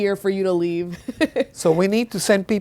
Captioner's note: laughing